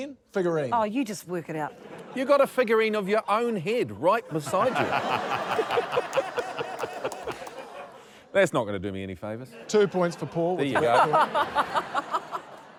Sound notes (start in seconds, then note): 4.3 laughter